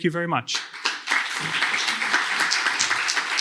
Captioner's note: applause